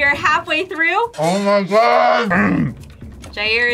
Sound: grunts

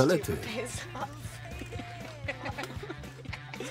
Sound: laughing

